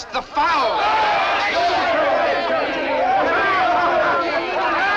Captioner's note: soldiers clamor for food